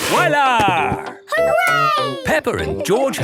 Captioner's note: laughing